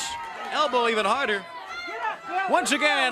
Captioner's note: crowd chatter